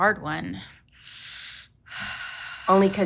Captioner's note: breathes deeply